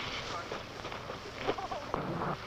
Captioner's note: footsteps